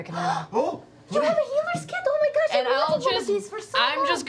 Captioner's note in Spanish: respingo